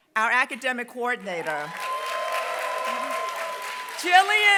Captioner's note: applause